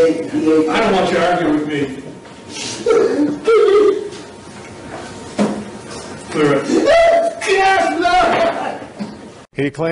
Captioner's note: spectator crying